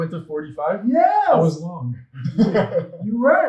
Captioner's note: laughs